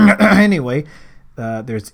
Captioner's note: ahem